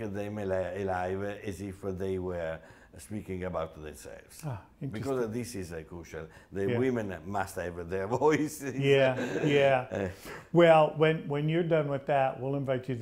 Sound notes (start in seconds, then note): 9.0 laughs